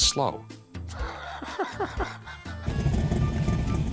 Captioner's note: laughs